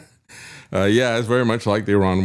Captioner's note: laughs